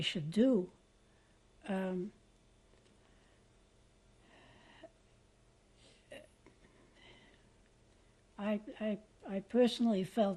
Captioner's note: pauses for 7 seconds